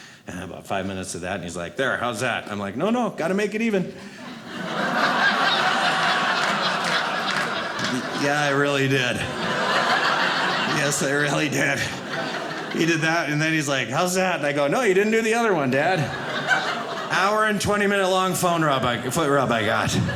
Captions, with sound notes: And about five minutes of that. And he's like, "There. How's that?" I'm like, no, no gotta make it even. (audience laughing) Yeah, I really did. (audience laughing) Yes I really did. He did that. And then he's like, "How's that?" And I go, no, you didn't do the other one, dad. Hour and 20 minute long foot rub I got.